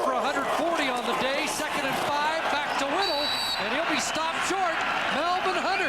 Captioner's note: cheers/Applause